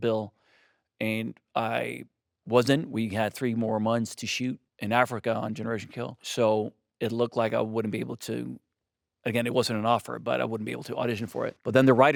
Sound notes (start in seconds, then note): none